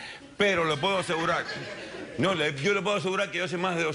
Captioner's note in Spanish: Risas